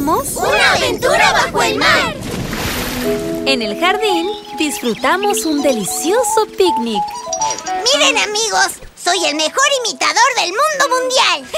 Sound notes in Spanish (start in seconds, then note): 3.6 Sonido de pájaro